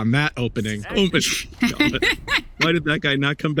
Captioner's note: cackling